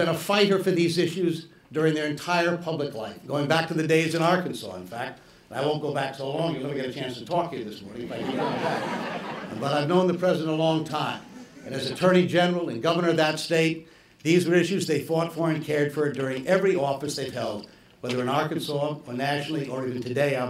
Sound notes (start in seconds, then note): 11.2 laughter